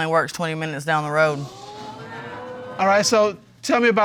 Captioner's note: audience exclaim